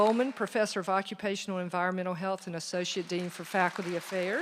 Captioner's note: applause